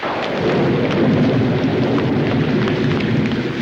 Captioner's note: thunder cracking